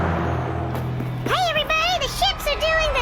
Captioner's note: transition sound